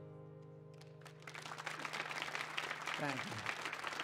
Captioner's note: audience applauds